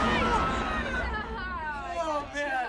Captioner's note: screams